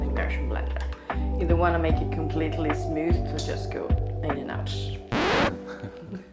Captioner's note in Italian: ridendo